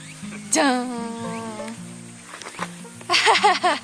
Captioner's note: laughs